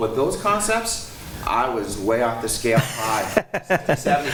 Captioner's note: laughs